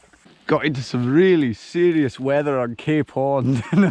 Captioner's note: in normal voice; laughs; in Scottish accent; laughs